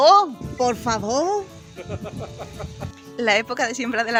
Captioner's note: laughs